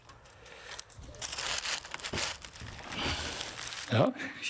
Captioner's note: rustling, labored breathing